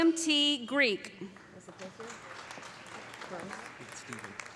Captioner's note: applause